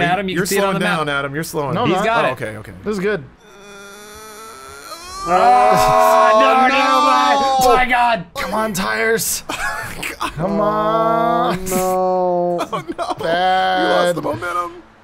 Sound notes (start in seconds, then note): 4.0 all exclaiming; 9.4 laughter